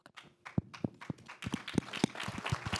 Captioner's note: applause